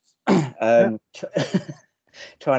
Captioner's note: laughs